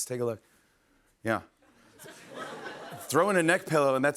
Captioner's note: laughter